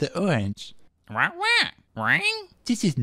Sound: squawking

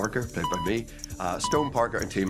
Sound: timer beeps

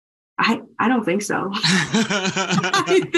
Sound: laughter

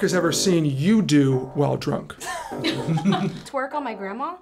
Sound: group laughs

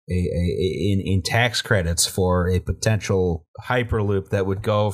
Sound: none

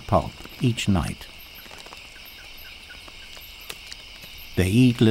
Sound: bat screeches

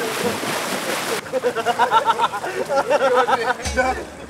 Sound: giggling

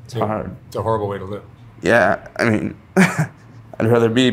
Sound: laughing

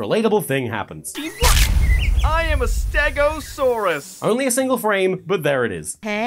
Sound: splat

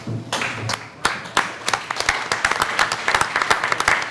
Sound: clapping

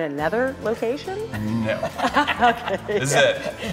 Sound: laughter

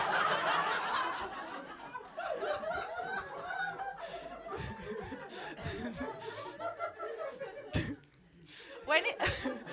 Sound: laughter

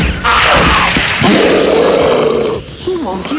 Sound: growling

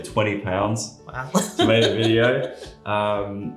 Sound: laughs

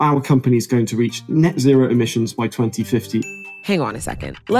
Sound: bell dings

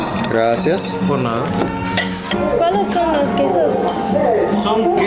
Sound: talking in Mexican

